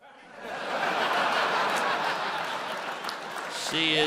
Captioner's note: audience laughs